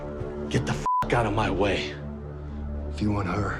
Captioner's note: dramatic music; beep